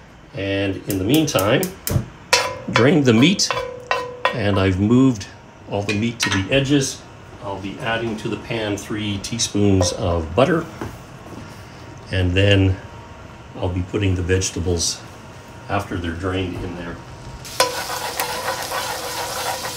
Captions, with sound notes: And in the meantime, drain the meat. And I've moved all the meat to the edges. I'll be adding to the pan three teaspoons of butter. And then I'll be putting the vegetables after they're drained in there. [sizzling]